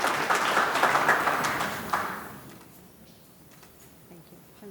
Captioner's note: audience claps